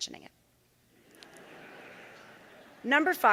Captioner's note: audience laughing